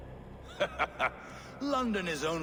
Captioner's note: laughs